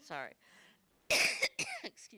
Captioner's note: coughs